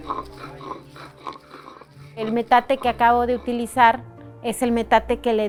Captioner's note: speaking foreign language